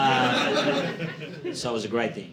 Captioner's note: audience laughing